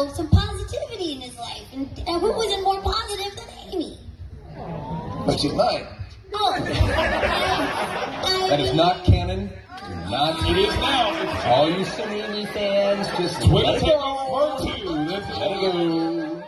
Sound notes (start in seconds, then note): 4.5 audience: Awww; 9.7 audience: Ohh!!